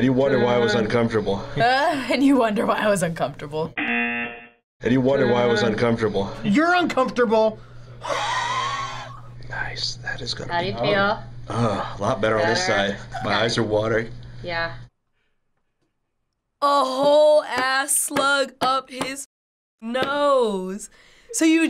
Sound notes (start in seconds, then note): 3.7 buzzer rings; 7.6 exhales